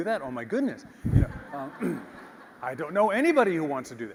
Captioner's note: laugh